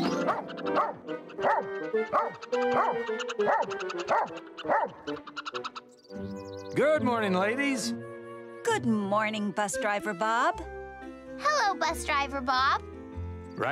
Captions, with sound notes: [squirrel chatters] [barking] Good morning, ladies. Good morning, bus driver Bob. Hello, bus driver Bob.